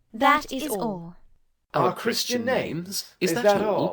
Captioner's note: speaking together